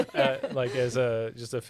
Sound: laughing

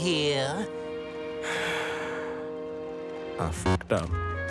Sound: sigh

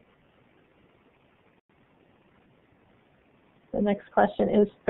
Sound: silence

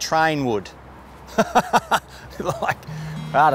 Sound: laughs

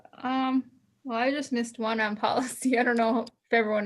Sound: chuckles

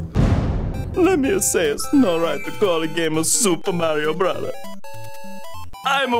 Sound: with Italian accent

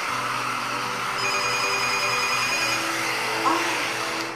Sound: phone ringing

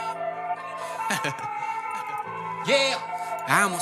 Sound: haha

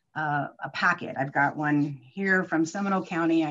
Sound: none

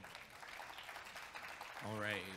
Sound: audience clapping

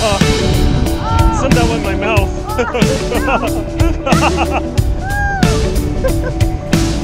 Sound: ocean water; laughing

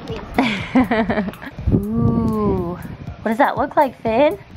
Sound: laughing

